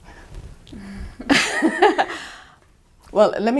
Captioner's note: laughing